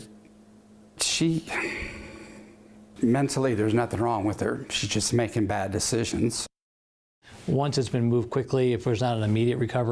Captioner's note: sigh